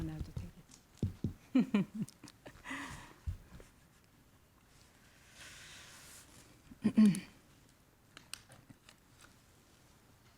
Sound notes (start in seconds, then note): 0.2 speaking in Korean; 1.5 laughs